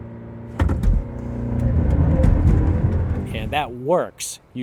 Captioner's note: car revs